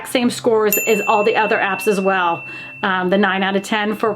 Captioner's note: bell dings